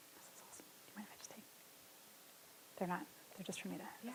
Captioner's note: whispers softly